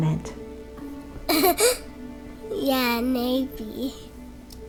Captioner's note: giggles